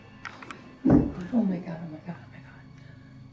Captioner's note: something knocks again